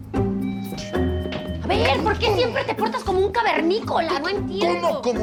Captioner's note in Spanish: timbre del teléfono